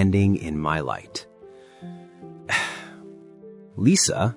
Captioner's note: sigh